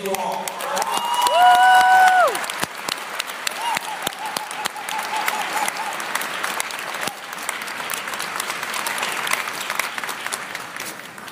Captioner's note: applause